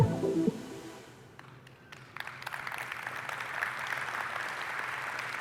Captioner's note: applause